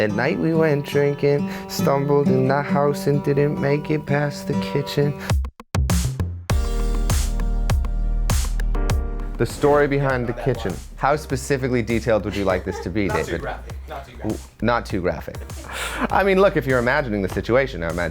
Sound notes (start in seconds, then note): 5.4 upbeat music; 12.2 woman laughs